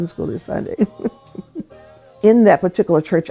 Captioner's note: chuckles